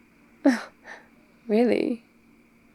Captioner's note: shocked gasp